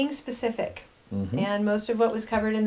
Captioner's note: humming